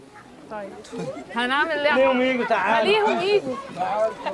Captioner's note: non-english speech